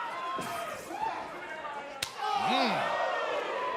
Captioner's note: crowd chatter